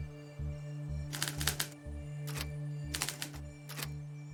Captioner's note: typewriter clicking